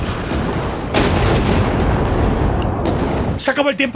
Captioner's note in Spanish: Estruendo